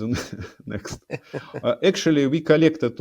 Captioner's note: both laughing